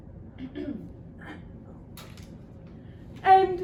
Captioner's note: audience member coughs